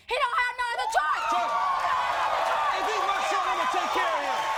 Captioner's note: audience cheers